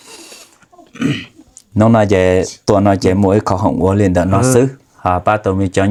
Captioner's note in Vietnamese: hắng giọng